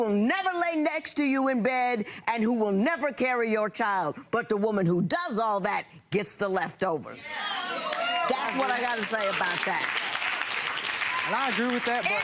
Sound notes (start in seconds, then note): 7.3 cheering; 9.9 applause